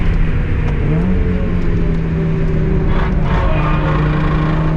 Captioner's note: car engine roars